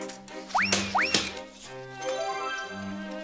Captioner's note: snap!